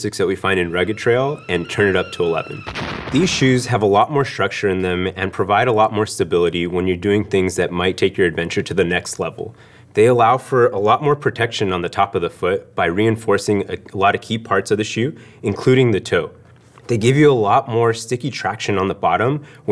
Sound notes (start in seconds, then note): 0.8 steam whistles; 2.6 explosion